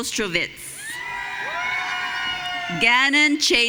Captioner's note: audience cheering